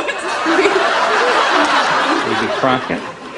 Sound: laughing

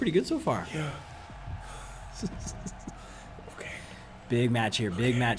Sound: laugh

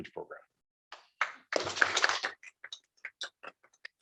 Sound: applause

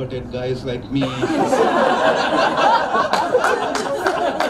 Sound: crowd laughs

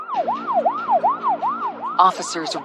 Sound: sirens wailing

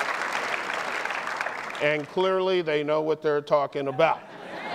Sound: applause

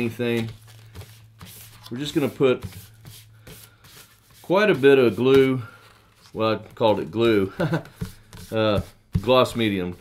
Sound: ha,ha

